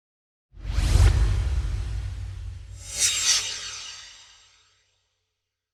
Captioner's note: swoosh